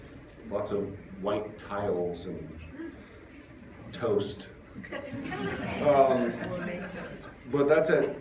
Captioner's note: laughter